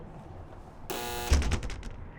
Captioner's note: door buzz